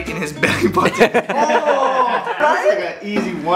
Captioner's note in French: Rires